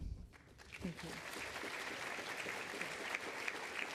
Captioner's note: audience claps